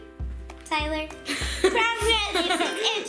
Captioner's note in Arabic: يضحك